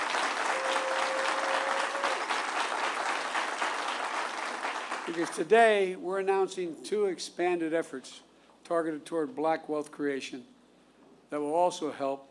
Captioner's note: applause